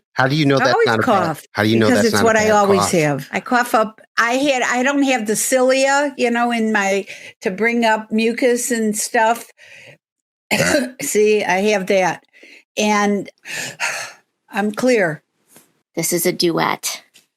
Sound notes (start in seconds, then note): 10.5 coughs